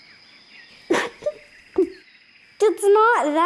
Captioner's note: tries to hold laughter